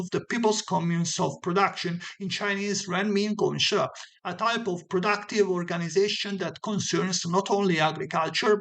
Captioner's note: in Chinese: "Renmin Gongshe"